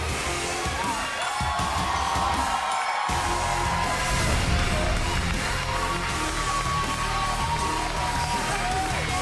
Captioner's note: cheers and applause